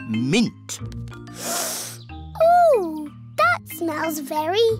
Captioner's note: sniffs